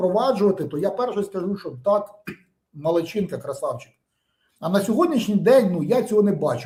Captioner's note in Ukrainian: прочищення горла